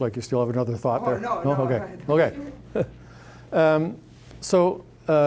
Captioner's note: chuckling